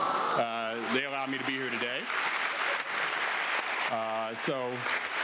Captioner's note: audience clapping